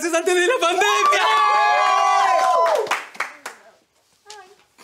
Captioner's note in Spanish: Gritos